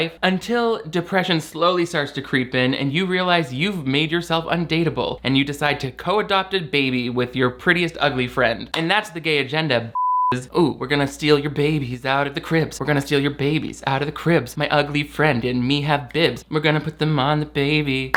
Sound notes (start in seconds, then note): 9.9 beep